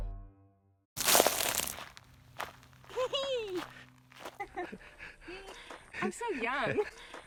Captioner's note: crunching; Lisa giggles